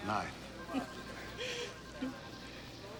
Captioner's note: chuckles